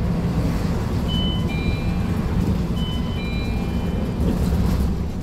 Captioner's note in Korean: 하차벨 소리